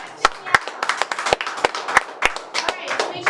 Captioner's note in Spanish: aplausos